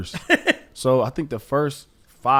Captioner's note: laughs